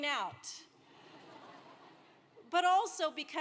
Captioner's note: laugh